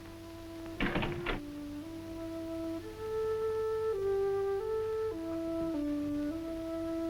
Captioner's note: door closes; dramatic music